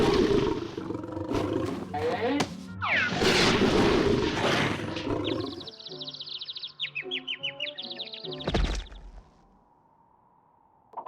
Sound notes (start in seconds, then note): 4.7 birds chirping